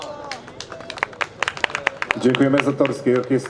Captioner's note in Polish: oklaski